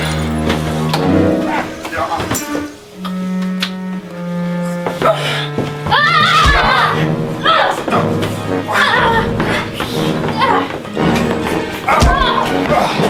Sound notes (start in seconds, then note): 5.8 screaming aggressively; 9.9 both grunting